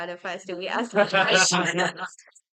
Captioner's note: everyone laughs